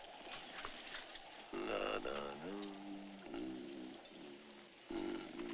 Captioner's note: humming